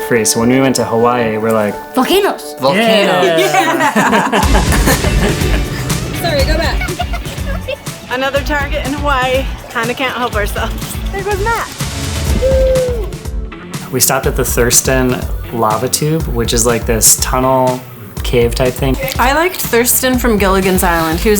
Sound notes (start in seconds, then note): 4.4 laughing